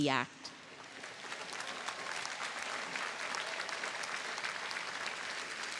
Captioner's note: audience applauding